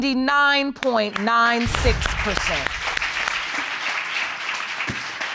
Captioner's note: applause